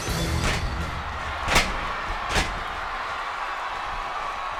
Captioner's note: audience cheers